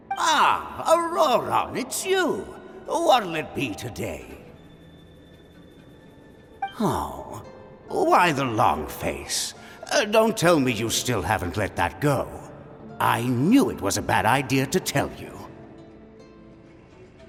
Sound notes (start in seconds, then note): 6.7 sigh